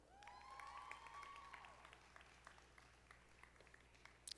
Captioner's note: audience applauding